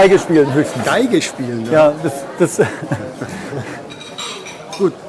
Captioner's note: laughter